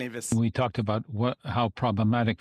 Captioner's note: speaking French